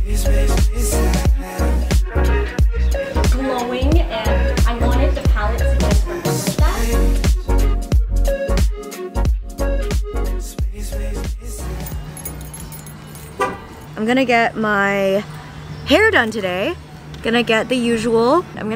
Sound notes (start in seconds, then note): 13.3 car horn honks